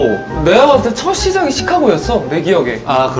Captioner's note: none